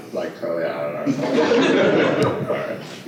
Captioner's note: laughter